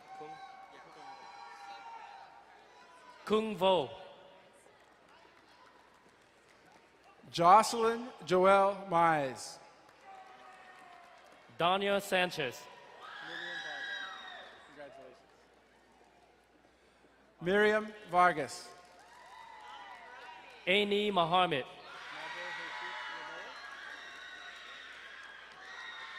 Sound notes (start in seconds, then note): 0.0 crowd cheering and applauding; 4.9 distant applauding; 13.1 woman in crowd cheering; 19.1 distant cheering; 21.8 crowd cheering and applauding